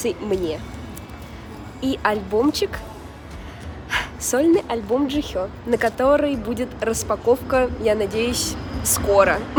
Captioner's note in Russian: вздох